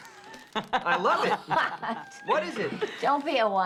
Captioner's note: Bobby and Rose laughing